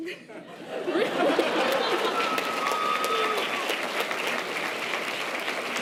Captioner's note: audience laughter and applause